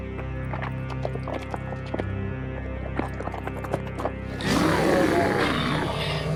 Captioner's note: growling